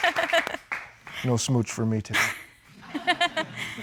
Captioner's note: laughs; laughter